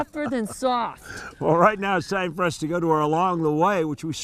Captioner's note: laughs